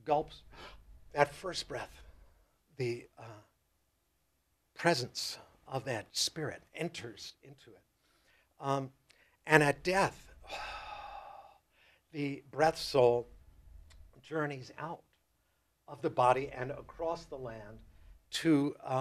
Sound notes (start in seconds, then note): 0.5 inhales; 10.4 exhales